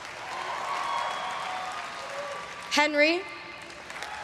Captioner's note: everyone cheering and applauding